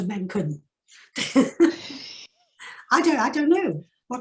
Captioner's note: chuckling